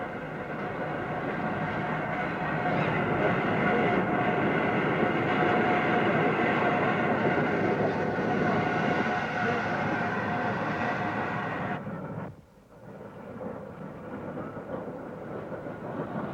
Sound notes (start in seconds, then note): 1.9 train passing